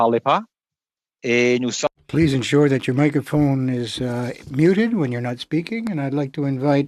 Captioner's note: speaking French